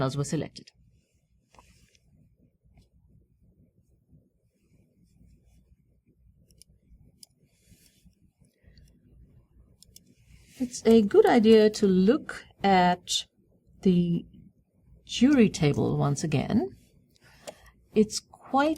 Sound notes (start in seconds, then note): 5.5 pause